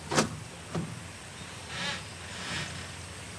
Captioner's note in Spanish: puertas se cierran